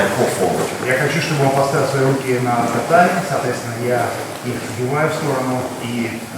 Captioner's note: speaking in a foreign language